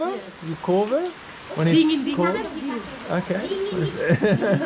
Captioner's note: lady speaks Indonesian